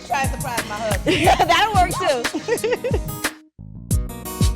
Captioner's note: chuckling; upbeat music